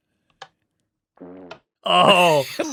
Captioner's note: fart